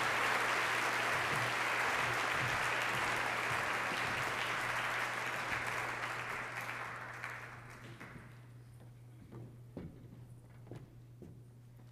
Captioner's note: applause